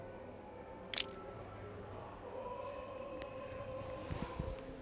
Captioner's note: camera shutter clicks